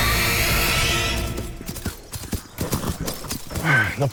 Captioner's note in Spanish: Ruido de los cascos